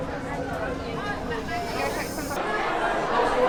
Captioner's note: people chatting; chatter echoing